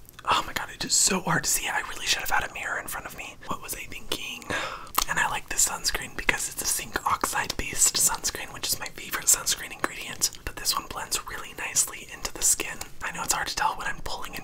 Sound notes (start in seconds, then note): none